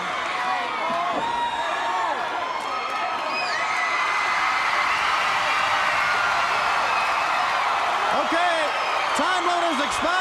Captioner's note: crowd cheering